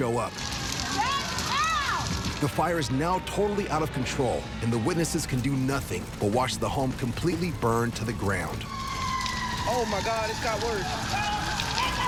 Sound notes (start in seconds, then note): 0.3 sirens blaring; 8.2 sirens get louder